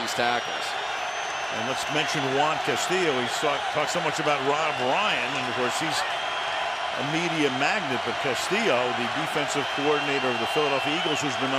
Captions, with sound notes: rush on these tackles. [cheering] And let's mention Juan Castillo. He talked so much about Rob Ryan. Of course, he's a media magnet. But Castillo, the defensive coordinator of the Philadelphia